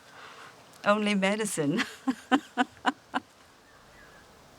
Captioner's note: chuckles